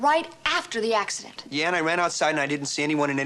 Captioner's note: none